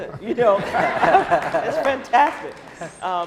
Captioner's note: laughing